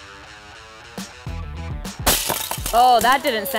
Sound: phone smashing and breaking

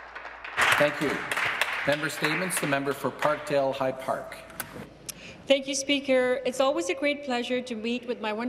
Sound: some Applause

